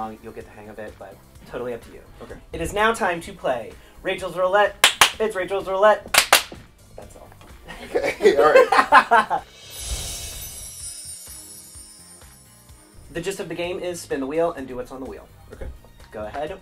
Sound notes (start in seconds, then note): 4.6 clapping; 7.6 laughing; 9.4 whooshing and chimes ringing